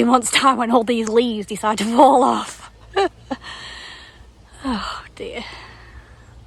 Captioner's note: laughs